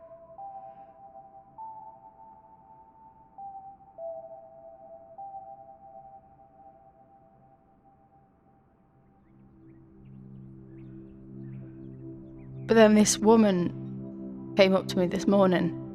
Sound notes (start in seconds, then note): 6.7 piano music stops; 9.0 sound of birds in the background